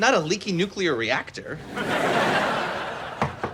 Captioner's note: laughs